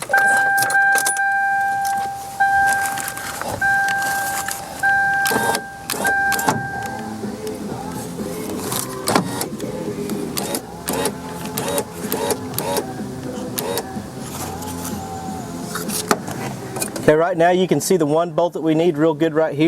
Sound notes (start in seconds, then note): 0.0 pinging; 7.7 radio playing